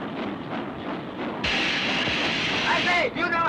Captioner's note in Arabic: هسهسة المحرك